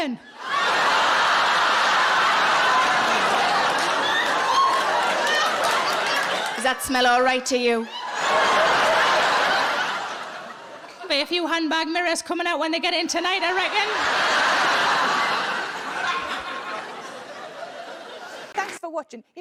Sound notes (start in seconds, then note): 0.3 audience laughing; 13.2 audience laughing